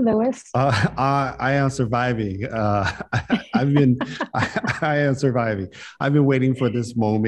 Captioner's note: chuckles